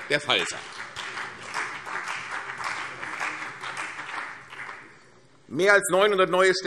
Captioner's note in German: Beifall CDU und BÜNDNIS 90/DIE GRÜNEN